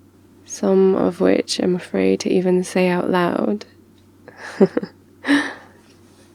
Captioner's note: laughs